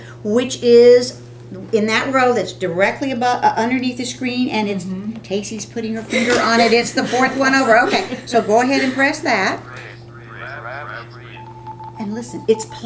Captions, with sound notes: which is in that row that's directly underneath the screen. And it's, Cassie is putting her finger on it, it's the fourth one over. OK, so go ahead and press that. [ Electronic voices of calculators ] And listen, it's plotting the points.